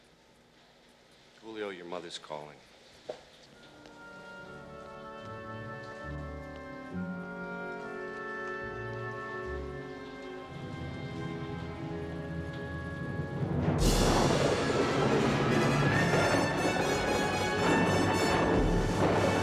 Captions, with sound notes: JULIO, YOUR MOTHER'S CALLING. [THUNDER]